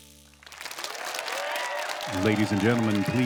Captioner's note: audience applauding